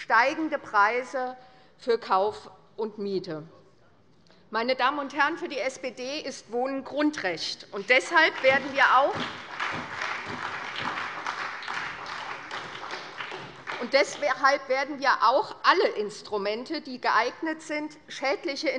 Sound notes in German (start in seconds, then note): 7.8 Beifall bei der SPD